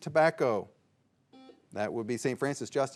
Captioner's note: signal beeps